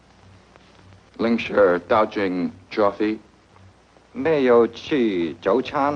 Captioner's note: speaks foreign language